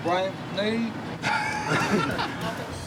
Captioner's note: laughing